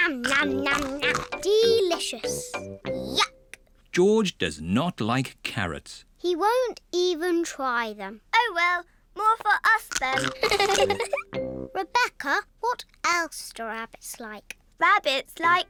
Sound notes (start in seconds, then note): 0.6 crunches; 10.2 giggles